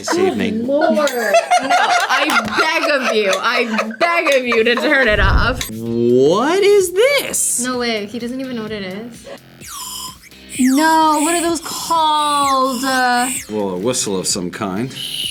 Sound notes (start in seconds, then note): 0.0 laughs; 9.6 candy whistles